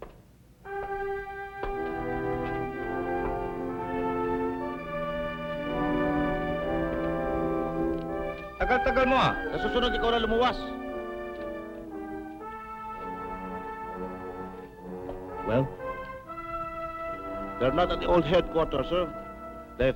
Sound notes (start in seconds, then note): 0.2 dramatic music; 8.0 speaking filipino